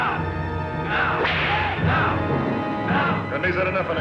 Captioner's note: whip cracks